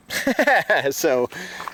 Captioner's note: laughing